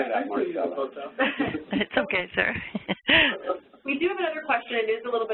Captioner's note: chuckles